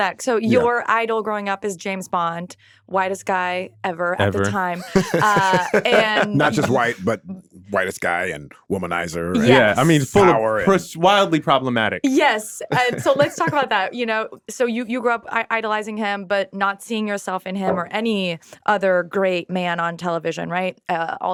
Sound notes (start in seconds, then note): 4.2 laughing